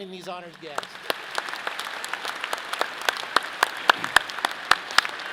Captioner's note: audience applauding